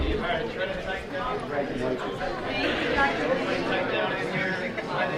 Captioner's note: animated chattering